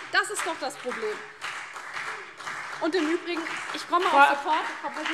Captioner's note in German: Beifall CDU und BÜNDNIS 90/DIE GRÜNEN - Zuruf